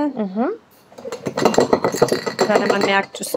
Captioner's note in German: Klappern